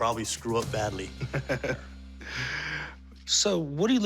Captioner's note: laughs